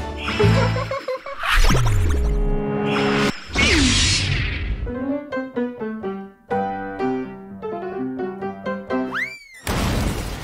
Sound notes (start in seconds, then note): 1.3 anime sound effects; 3.2 sci-fi sound effects; 9.7 wrecking sound